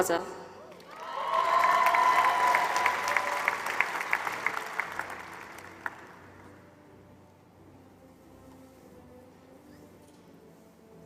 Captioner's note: applause